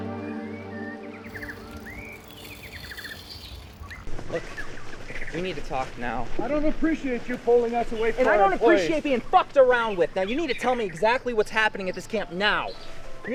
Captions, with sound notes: (birds chirping) Look, we need to talk now. - I don't appreciate you pulling us away from- - I don't appreciate being fucked around with. Now you need to tell me exactly what's happening at this camp, now.